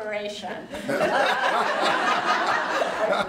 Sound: laughter

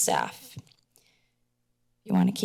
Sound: silence

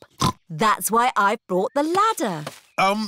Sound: snorts

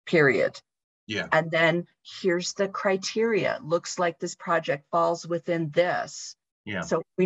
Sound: talking

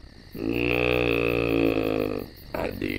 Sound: groans

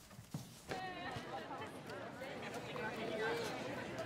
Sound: indistinct chatter

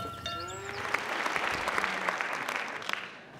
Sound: applause

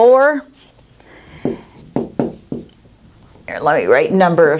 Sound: sounds of marker writing

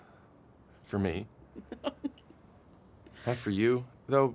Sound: chuckles

